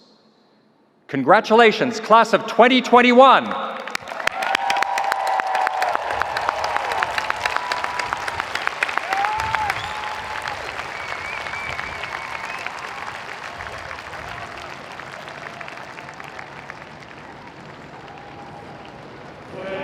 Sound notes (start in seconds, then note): 3.8 audience applauding; 3.8 audience cheering